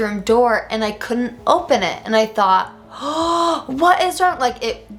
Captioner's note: gasps